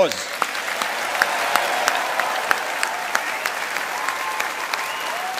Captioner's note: audience applauding